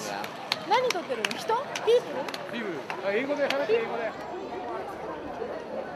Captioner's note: speaking in foreign language